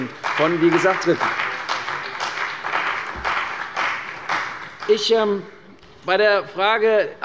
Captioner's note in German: Beifall bei der CDU und dem BÜNDNIS 90/DIE GRÜNEN